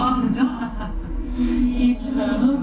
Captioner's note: laughter from the crystal ball